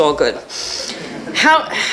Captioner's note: laughter